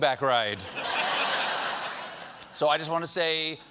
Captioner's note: laughter